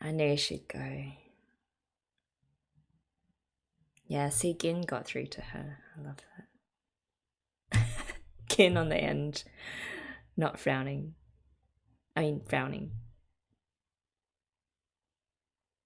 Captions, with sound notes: I know she'd go. Yeah, see Gin got through to her. [laughs] Gin on the end. Not frowning. I mean, frowning.